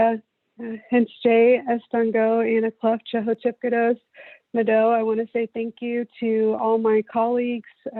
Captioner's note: non-english speech